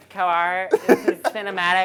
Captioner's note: laughing